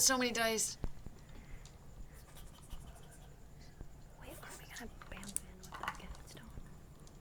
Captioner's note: whispering